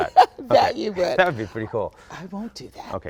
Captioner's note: laughs